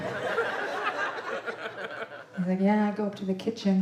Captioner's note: audience laughing